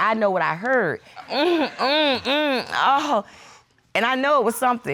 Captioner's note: imitating moaning